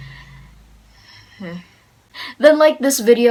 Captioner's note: nervous quiet laughing